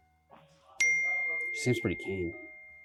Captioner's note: Lee’s phone beeps with a new message